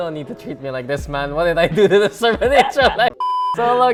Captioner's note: laughs